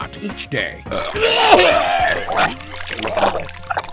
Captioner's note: vomits